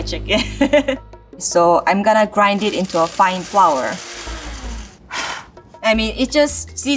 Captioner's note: exhales sharply